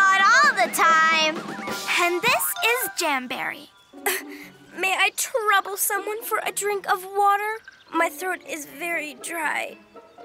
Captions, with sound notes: - (giggles) Not all the time! - And this, is Jamberry. - (coughs) May I trouble someone for a drink of water? My throat is very dry.